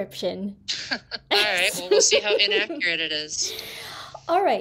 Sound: laughter

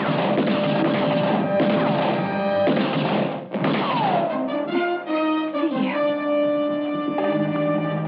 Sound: gun shots

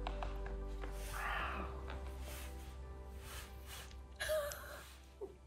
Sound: gentle music; sighs; chuckles

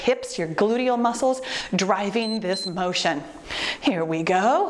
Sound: timer beeps

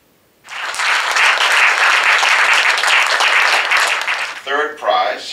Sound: applause

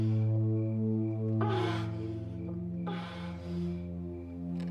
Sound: grunts; whimpering

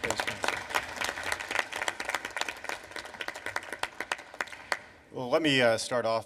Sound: applause

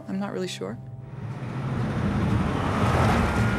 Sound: rumbling

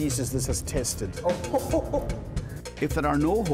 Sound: chuckling

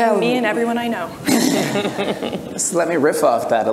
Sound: everyone laughs

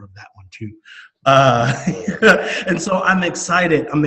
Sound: laughing

